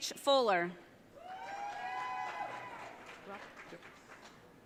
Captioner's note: audience cheering